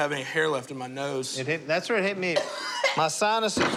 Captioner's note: coughs